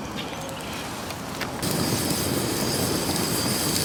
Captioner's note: fire crackling